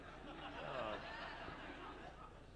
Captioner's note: laughter